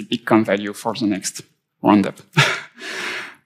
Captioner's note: chuckles